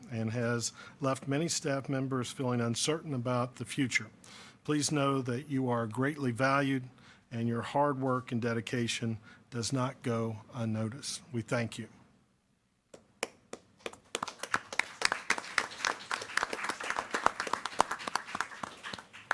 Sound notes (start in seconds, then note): 13.5 applause